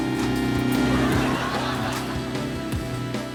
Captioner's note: motor rumbling